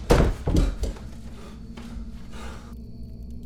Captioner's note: Terry panting